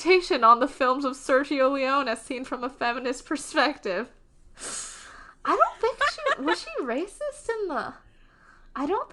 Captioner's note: laughs